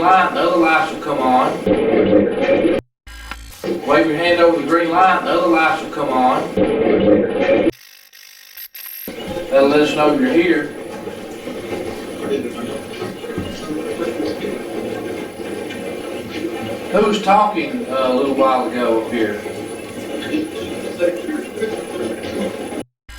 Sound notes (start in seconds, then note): 3.3 static playback transmitting; 3.6 static fizzing; 8.1 static fizzing; 11.3 static playback transmitting; 19.8 static playback transmitting